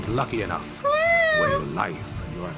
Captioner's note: whines